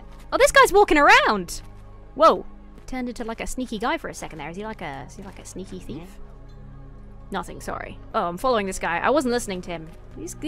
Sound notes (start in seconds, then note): none